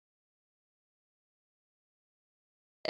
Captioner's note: none